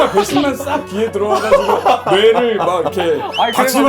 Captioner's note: hahaha